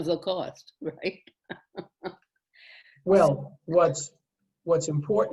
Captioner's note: laughter